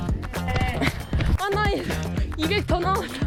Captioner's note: panting